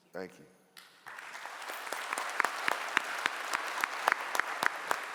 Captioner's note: clapping